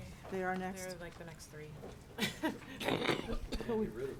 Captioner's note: laughs